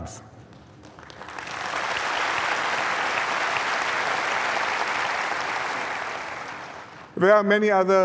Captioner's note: applause